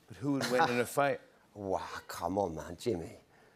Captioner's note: chuckles